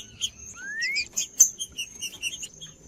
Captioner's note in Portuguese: trinca ferro cantando